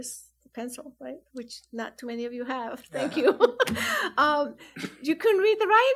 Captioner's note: laughs